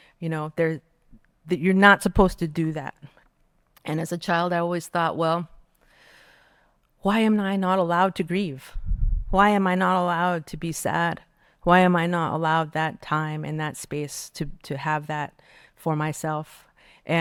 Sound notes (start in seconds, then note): none